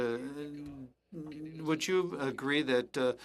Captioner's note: speaking French